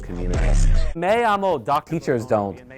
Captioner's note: speaking spanish